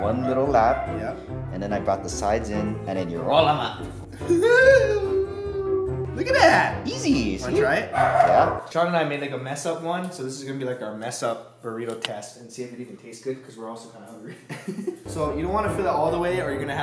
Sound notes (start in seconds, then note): 14.2 laughter